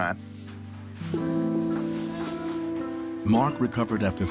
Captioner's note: cooing